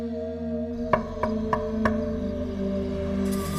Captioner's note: knocking